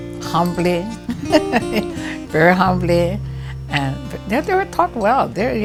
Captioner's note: laughter